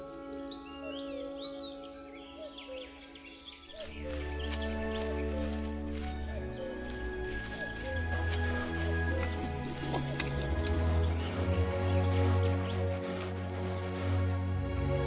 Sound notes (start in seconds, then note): 4.0 odgłosy schodzenia z drzewa, mlaskania